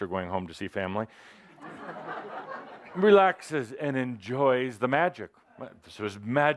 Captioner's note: laughter